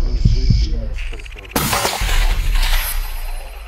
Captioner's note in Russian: выстрел